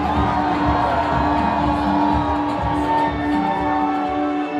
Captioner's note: audience cheering